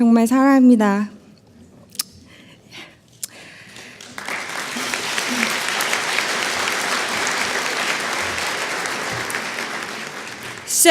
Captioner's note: applause; speaking korean